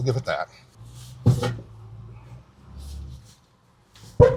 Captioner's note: truck thuds